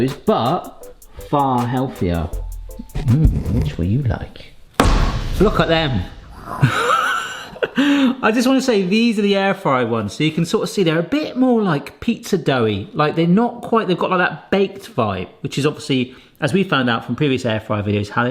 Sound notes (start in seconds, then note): 6.7 laughing